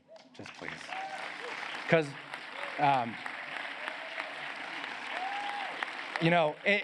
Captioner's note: applause